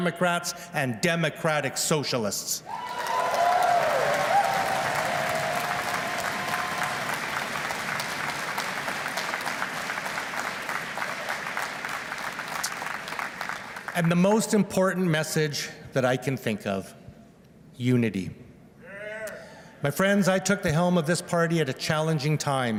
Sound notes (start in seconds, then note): 5.9 cheers and Applause